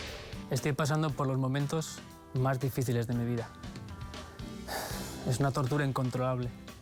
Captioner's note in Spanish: exhala; exhala